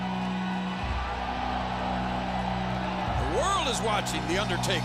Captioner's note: troops cheer